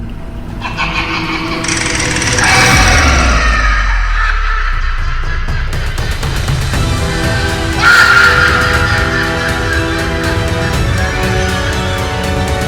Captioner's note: evil laughter